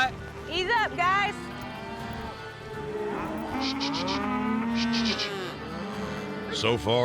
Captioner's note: cattle mooing